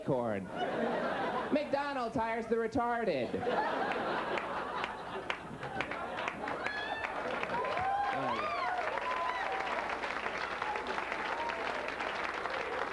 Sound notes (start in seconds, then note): 3.2 audience laughs, claps, cheering